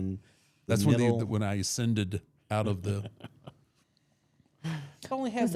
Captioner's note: laughs